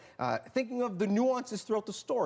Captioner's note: none